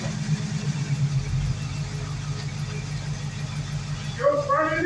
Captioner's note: engine idle drops